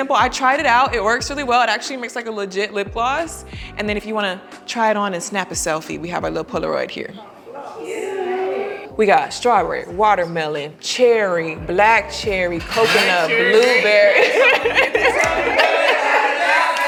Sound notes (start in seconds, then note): 12.7 laughing